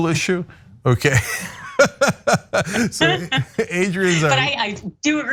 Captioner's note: laugh